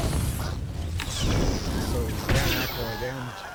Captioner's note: gun shots